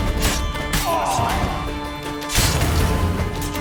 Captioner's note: groan